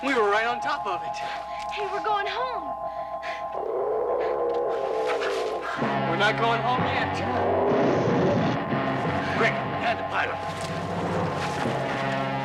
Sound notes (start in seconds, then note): 3.6 dinosaur roaring; 7.4 flames roaring; 12.2 intense dramatic music